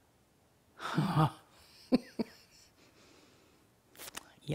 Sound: chuckling

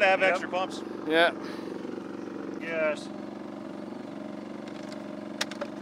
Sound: generator rumbles

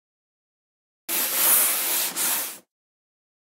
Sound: sound of chalkboard eraser

